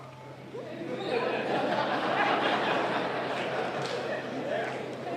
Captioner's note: laughter